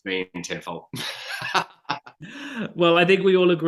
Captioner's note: laughing